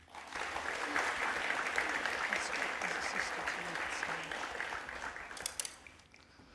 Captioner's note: applause